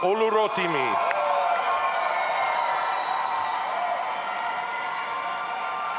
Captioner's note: audience applauding and cheering